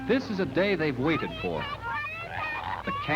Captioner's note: children's voices